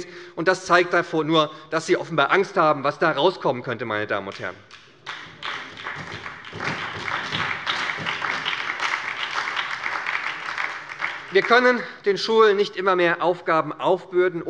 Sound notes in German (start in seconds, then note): 4.7 Beifall bei der SPD und bei Abgeordneten der FDP